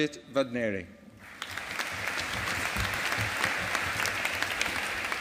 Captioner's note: audience applauding